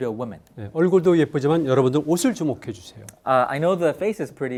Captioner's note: speaking in Korean